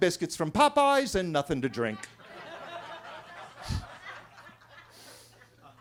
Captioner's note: attendees laughing